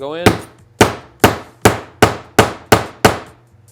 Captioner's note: banging